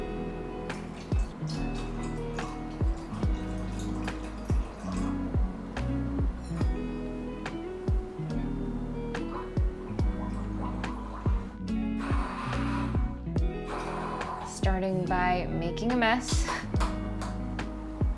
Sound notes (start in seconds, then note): 0.2 relaxing slow-tempo music continues; 9.1 liquid bubbles; 12.1 mixer whirs